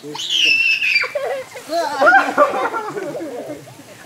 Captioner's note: screams